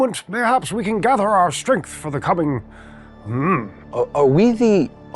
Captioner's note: grunts